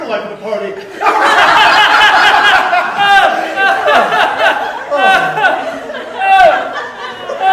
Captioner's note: raucous Laughter